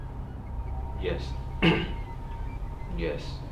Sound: clears throat

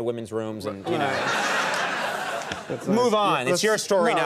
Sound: audience laughing

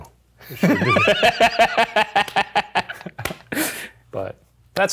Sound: laughing

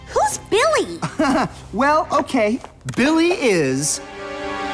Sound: chuckles

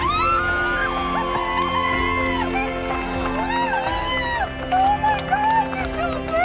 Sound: screaming

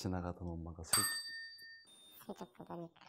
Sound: chime

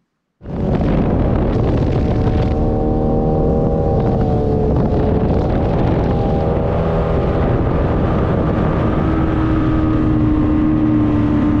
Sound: boat with two-stroke outboard engine cruising

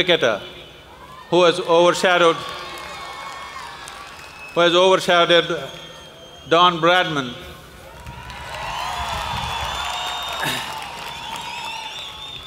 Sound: applause

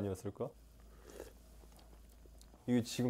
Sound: slurping again

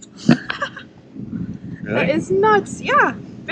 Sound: laughs

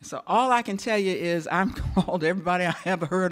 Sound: chuckles

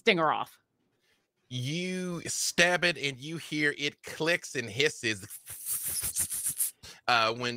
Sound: hisses

